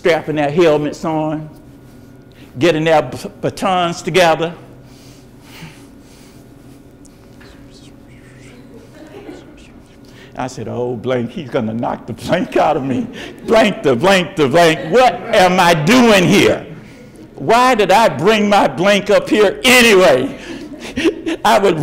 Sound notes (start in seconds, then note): 6.6 imitating whispering; 8.4 audience laughs